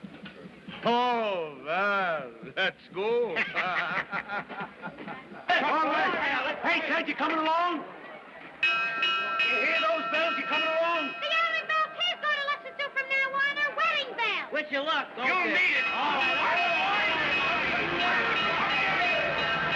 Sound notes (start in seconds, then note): 0.1 laughing; 8.6 bell Clanging